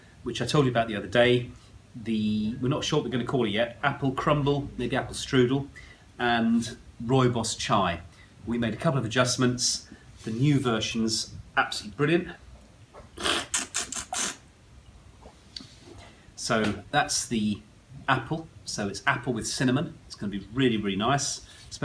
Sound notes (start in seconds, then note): 13.1 slurping